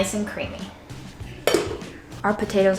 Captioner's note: thudding sound